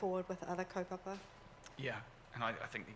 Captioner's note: foreign language